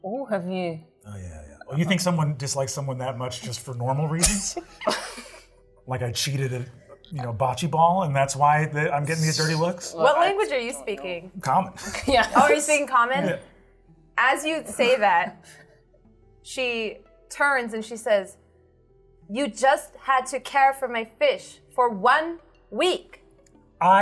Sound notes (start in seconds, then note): 4.0 chuckles